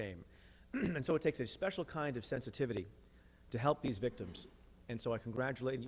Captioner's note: clears throat